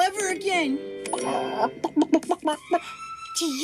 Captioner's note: Peck clucking